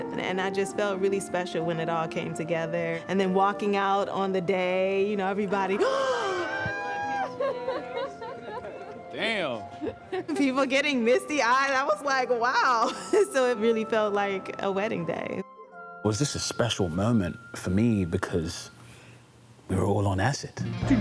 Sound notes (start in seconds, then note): 5.8 gasps; 7.0 laughter